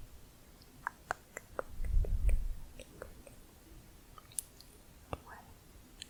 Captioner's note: tongue clicking